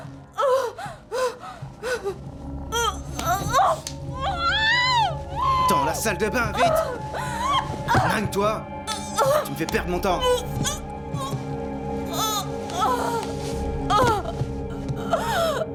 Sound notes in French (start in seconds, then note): 8.2 parlant russe